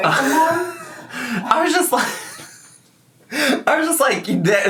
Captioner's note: laughs